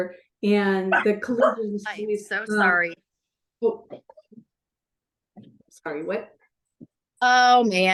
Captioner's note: sounds of a dog barking